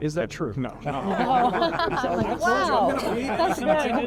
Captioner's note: all laughing